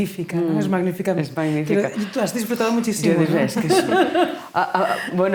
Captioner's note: laughing